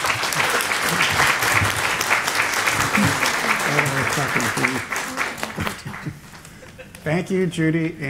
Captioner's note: applause